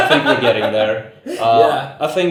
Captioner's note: laughs